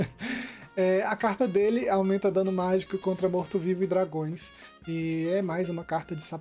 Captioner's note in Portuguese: risadas